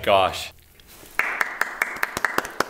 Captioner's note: applause